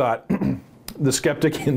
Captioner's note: clearing throat